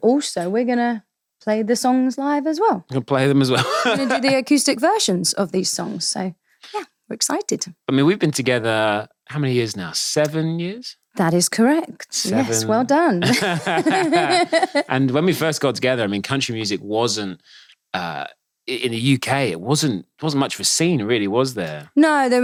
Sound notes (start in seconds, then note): 3.5 laughing; 13.2 both laughing